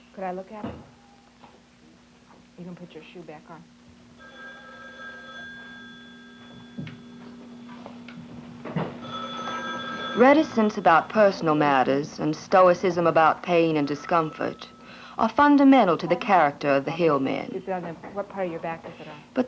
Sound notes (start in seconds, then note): 3.8 telephone ringing; 8.6 telephone ringing